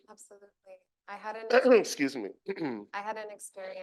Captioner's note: clears throat